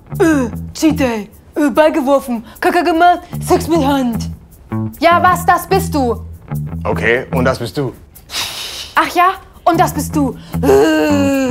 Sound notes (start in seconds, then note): 8.1 hisses; 10.7 caveman sound